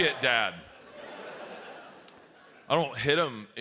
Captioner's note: audience laughs